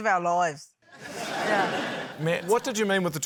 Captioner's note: laughter